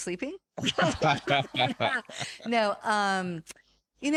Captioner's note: laughing